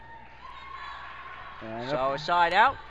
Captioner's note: crowd cheers